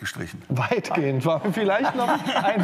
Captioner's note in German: Lachen